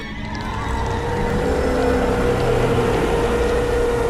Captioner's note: wailing